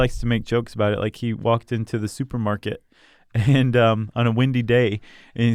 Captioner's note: laughs